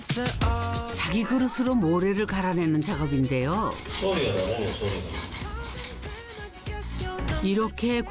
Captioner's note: scraping the floor with a ceramic bowl to grind the sand